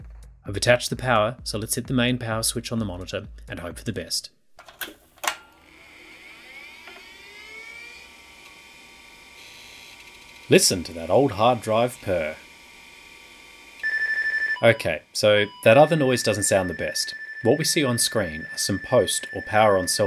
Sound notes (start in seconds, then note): 8.0 hard drive spinning up; 12.1 incessant beeping